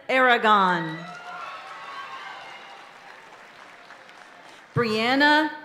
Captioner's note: audience applauding and cheering continues